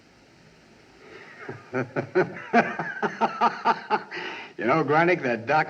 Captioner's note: laughing